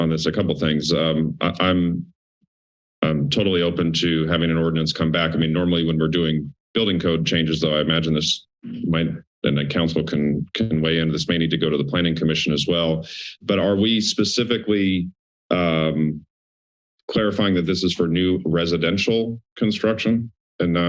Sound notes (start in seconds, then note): 16.4 silence